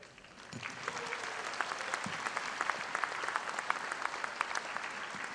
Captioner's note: audience applauding